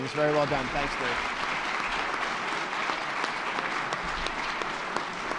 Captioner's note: attendees clapping